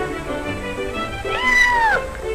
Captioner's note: cat meows